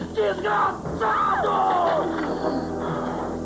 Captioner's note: woman screams